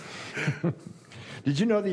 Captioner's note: laughter